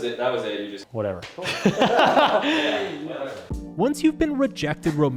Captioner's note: laughing